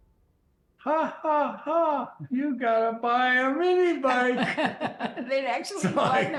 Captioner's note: laughs